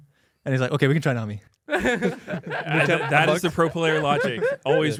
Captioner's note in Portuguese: risos